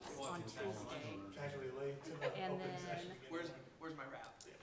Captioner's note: background chatter